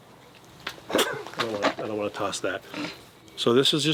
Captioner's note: chuckles